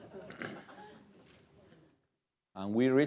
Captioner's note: laughter